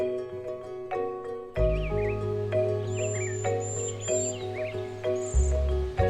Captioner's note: birds singing